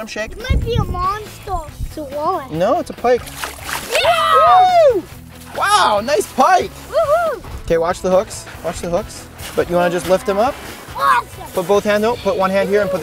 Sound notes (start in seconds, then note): 5.6 cheering